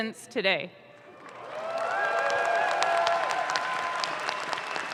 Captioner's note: audience claps